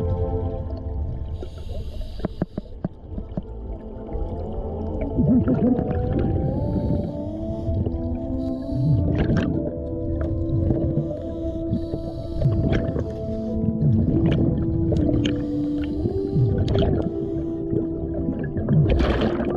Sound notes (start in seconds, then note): 12.9 SCUBA bubbles gurgle